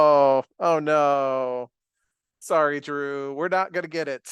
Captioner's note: chuckles